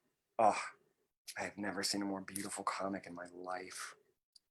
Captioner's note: sighs